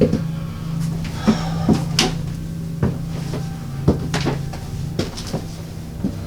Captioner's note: breathing heavily